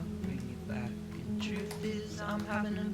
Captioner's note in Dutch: tap